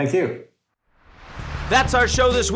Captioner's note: air whooshing